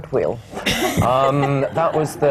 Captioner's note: laughter